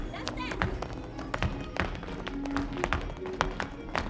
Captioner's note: shoes tap